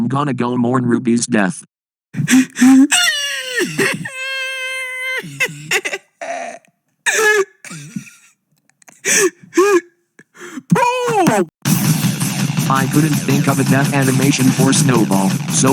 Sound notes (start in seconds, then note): 7.0 loud-ahh gasp; 7.1 tries not to laugh; 10.2 loud-ahh gasp x2; 10.2 loud-ahh gasp x3